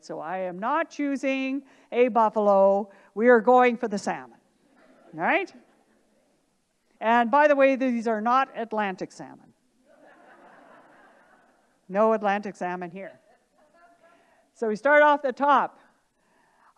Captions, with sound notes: so I am not choosing a buffalo, we are going for the salmon, right? And by the way, these are not Atlantic salmon. (audience laughing) No Atlantic salmon here. So we start off the top,